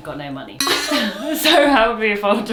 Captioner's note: laughs